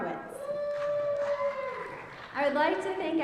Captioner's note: audience cheering